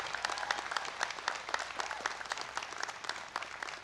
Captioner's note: applause